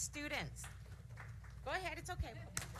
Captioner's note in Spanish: aplausos